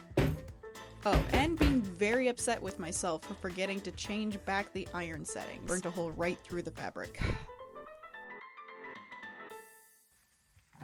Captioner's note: irritated sigh